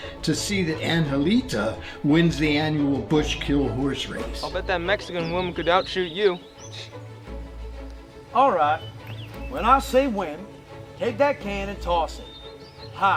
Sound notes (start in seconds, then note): 7.4 scoffs